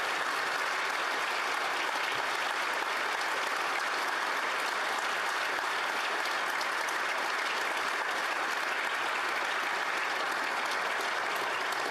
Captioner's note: applause